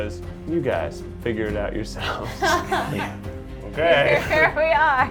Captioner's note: laughs